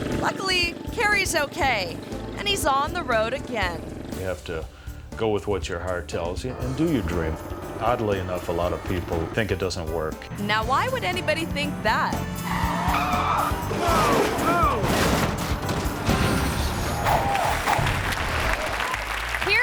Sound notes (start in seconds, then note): 12.7 monocycle crashing; 13.0 tire squealing; 17.0 audience applauding